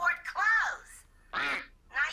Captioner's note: quack